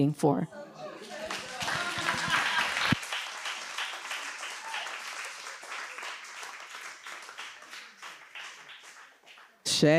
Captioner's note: audience applauding